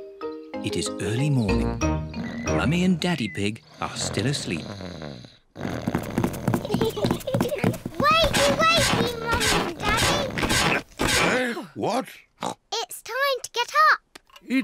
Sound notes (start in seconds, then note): 5.3 snores; 6.5 both giggle